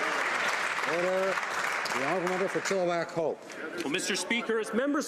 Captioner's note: some Applause